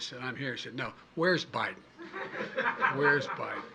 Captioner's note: laughter